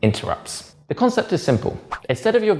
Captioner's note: page whips